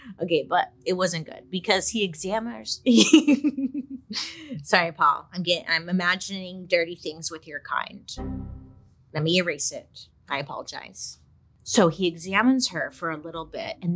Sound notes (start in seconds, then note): 3.3 laughs; 8.5 tone dings